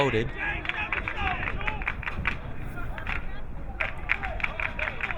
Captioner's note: crowd clapping